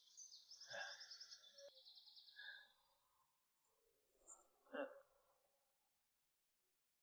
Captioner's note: grunting